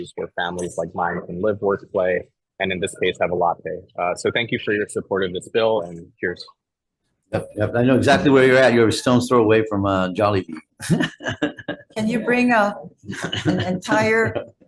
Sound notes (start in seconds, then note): 10.8 laughs